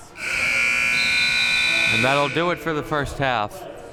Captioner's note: buzzer sounding